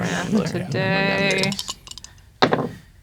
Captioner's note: grumbling; dice rattling; dice rolling